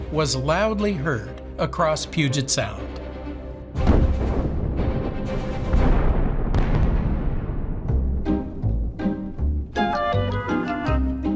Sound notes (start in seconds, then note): 3.2 suspenseful music; 3.7 explosion booming; 8.0 whimsical music